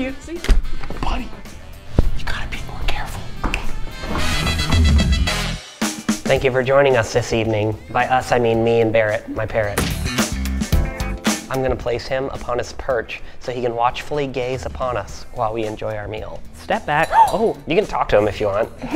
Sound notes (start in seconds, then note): 3.9 snapping; 9.8 thud